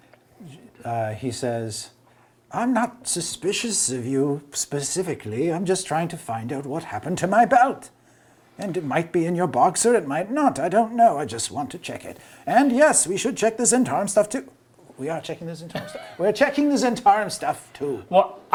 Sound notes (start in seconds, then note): 15.1 quietly